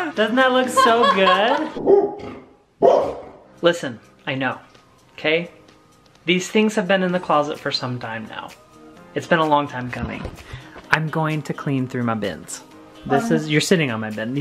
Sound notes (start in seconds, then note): 1.1 Penny barking